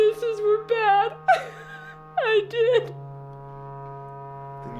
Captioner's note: crying